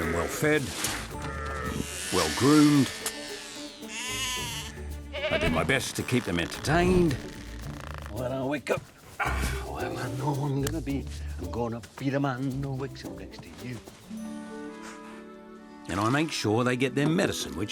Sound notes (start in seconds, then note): 3.4 trimmer whirs; 5.0 sheep bleat